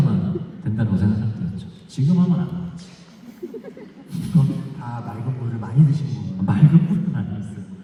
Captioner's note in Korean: 웃음